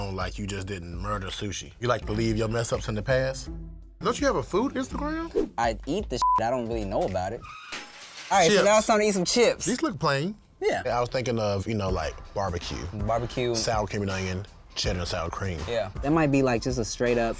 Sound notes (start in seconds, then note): 6.2 beep